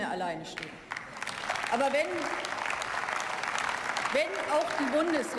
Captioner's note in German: Beifall